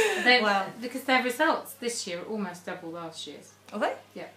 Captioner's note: both laughing